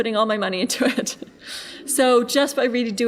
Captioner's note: laughing